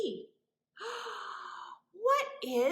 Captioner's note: gasps